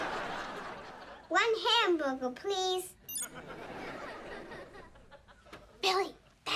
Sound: tablet bleeps

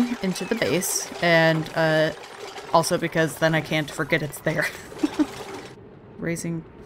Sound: laughs

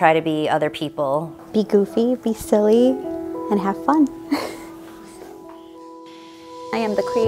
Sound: laughs

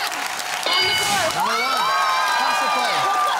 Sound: cheering

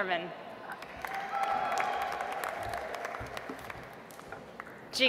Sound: audience applauds

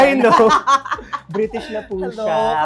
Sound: laughs

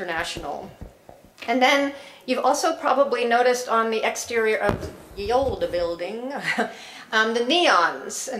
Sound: laugh

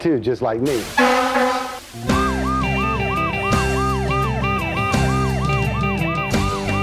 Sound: upbeat music; siren wailing

